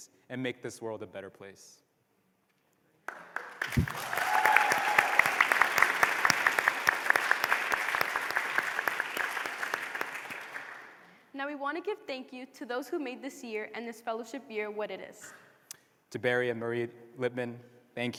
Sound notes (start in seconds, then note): 3.0 applause